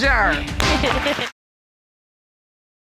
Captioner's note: giggles